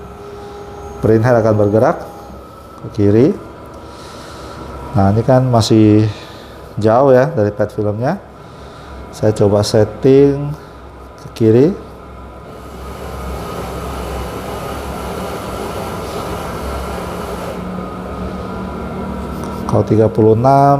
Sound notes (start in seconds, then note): 0.0 printer machine noise; 12.2 printer machine noise